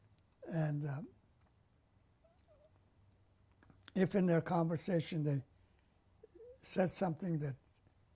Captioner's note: pauses for 3 seconds